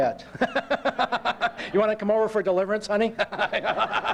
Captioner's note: laughter; laughter